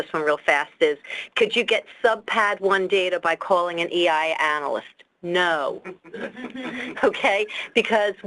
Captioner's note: laughter